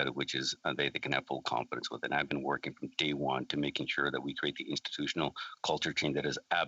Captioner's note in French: voix de l'interprète